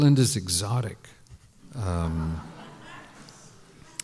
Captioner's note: laughter